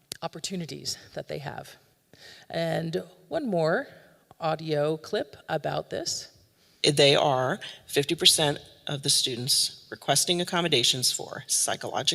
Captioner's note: audio recording plays